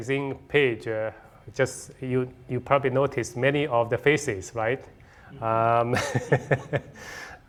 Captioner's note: laughing